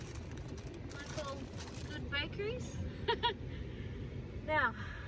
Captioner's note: laughs